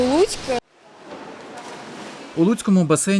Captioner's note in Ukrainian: Сплеск води